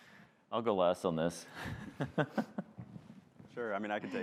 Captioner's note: laughs